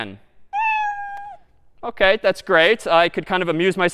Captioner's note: meow